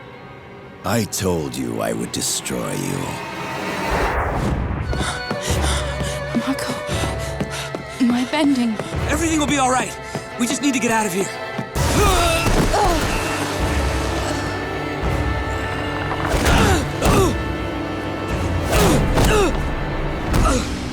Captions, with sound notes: I told you I would destroy you. Mako, my bending. Everything will be all right. We just need to get out of here. [groaning] [groaning]